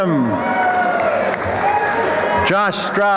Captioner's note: applause and cheering